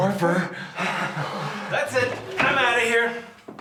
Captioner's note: laughing